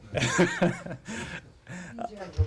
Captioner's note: laughter